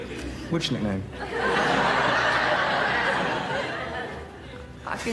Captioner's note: laughter